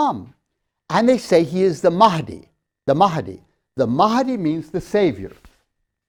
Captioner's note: chalk tapping